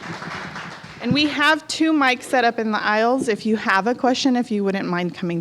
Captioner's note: applause